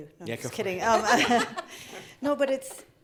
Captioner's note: laughing